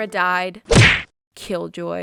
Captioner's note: punch sound effect